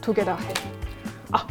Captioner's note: crack!